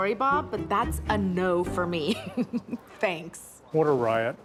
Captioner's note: laughs